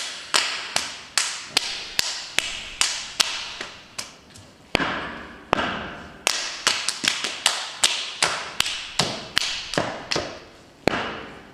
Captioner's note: readmit -- rhythmic clapping and stomping